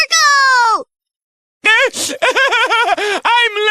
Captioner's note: sobs